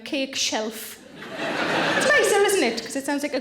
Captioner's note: audience laughing